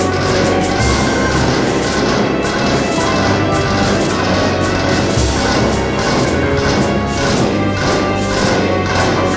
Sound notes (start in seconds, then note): 2.6 also, chanting